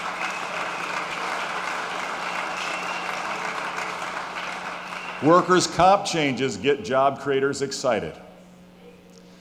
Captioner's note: applause